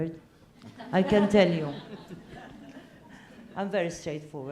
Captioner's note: laugh